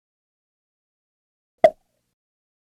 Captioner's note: sound effect